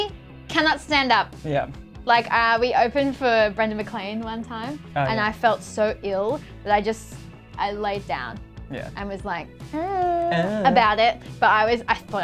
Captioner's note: unhhh